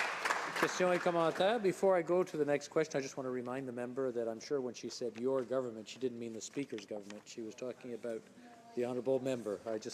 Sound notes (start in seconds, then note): 2.1 some Applause